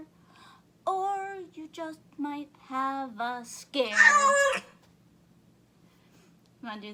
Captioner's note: shrieking cat